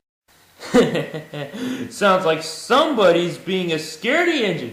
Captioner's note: chuckles